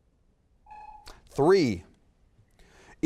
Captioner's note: timer sounds